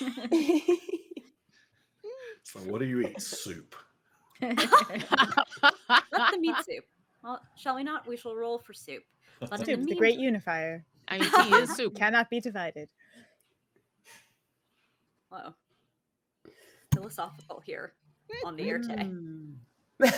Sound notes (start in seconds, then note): 0.0 all chuckling; 4.4 all laughing